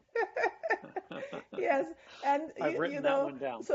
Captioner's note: laughter